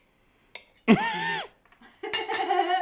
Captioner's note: laughing